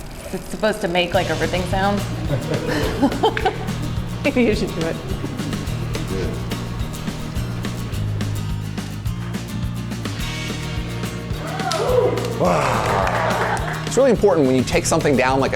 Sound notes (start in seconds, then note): 3.3 laughs